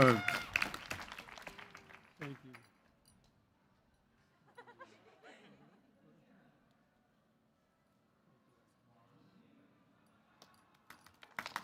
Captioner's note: cheers